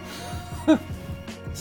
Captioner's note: laughs